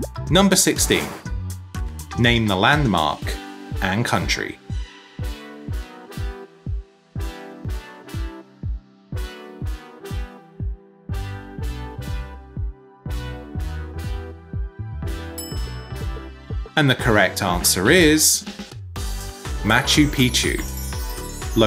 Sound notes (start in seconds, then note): 4.8 upbeat music; 15.4 bell clinking